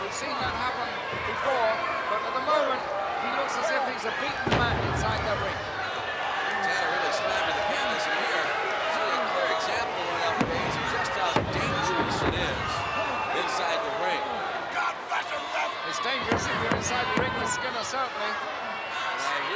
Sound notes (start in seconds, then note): 5.9 body thudding; 9.8 hands thudding; 10.2 body thudding; 16.1 hands thudding